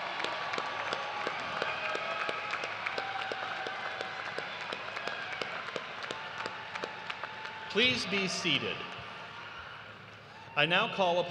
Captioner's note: cheers and applause